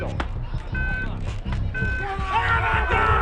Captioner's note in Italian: bip del segnale dello starter